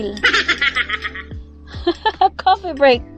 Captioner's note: laughing